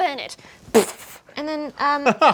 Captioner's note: fish flaming